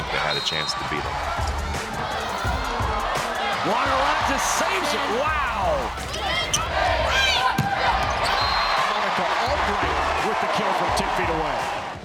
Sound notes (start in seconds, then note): 1.3 cheering; 5.5 cheering; 8.2 whistle